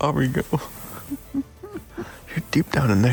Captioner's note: chuckling